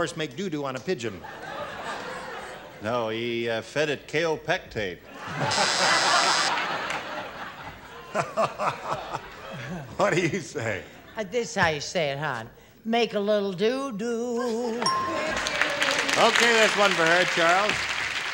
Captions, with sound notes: make doo-doo on a pigeon. - No, he fed it Kaopectate. (buzzer) - What do you say? - This is how you say it, hon. Make a little doo-doo. (ding) (applause) - Okay. That one for her. Charles?